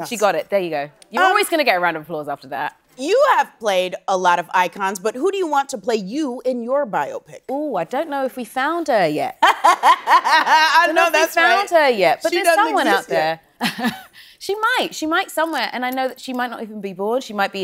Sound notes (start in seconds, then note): 9.5 laughs